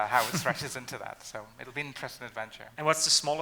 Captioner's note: laughing